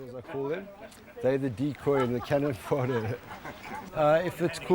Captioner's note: people chattering